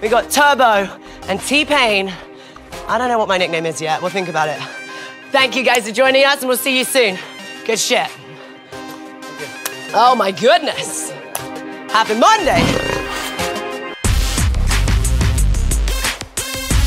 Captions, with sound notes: we got Turbo and T-Pain. I don't know what my nickname is yet, we'll think about it. Thank you guys for joining us and we'll see you soon. Good shit. - Good job. (clapping) - Oh my goodness. Happy Monday. (energetic music)